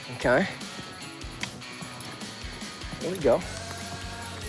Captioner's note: clicking